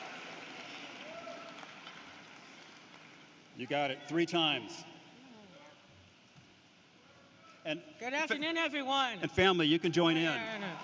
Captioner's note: cheering and applause